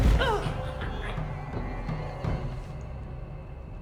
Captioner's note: Claire thuds